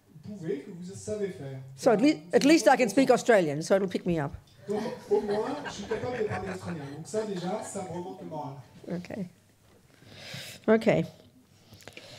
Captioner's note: laughter